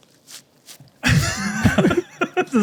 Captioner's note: laughs